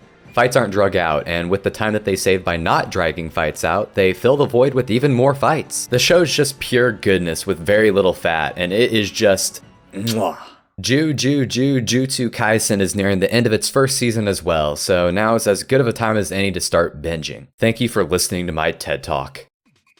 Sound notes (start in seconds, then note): 10.0 kiss